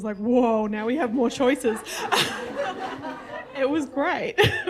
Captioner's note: audience laughter